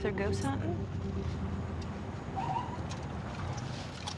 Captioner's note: siren chirps